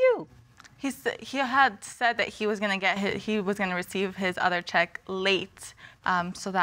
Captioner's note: stammers